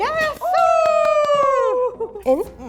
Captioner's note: both cheer